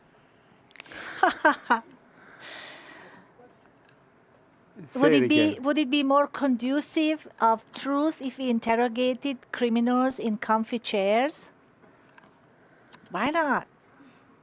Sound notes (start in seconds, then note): 0.9 laughs; 1.0 chuckles